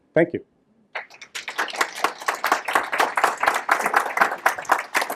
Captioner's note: applause